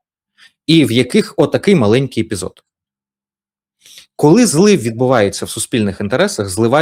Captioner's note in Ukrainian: сопіння